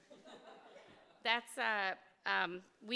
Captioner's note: audience laughing